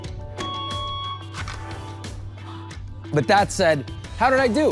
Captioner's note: digital characters beeping